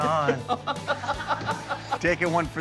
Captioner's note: laughing